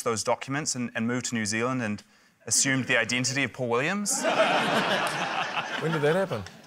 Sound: laughter

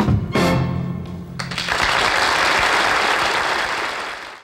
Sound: crowd applauding

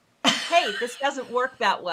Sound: laughing

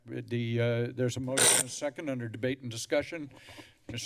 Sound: static noise

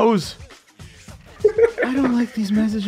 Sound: laughter

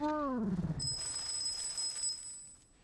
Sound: bells ringing

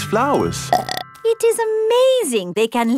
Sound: burps

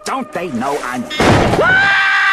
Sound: bang!

